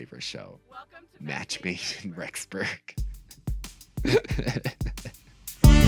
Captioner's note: laughs